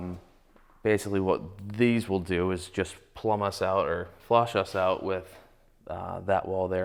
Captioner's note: none